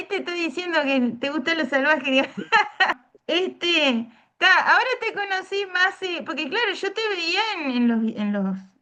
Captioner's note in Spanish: risas